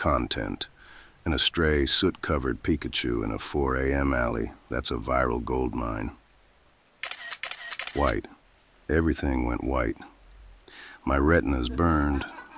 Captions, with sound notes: 'Content.' And a stray, soot-covered Pikachu in a 4:00 AM alley? That’s a viral goldmine. [Sound: A blinding camera flash effect.] WHITE. Everything went white. My retinas burned.